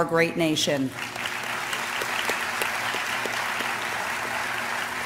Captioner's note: applause